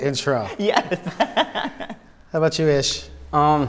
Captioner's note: laughing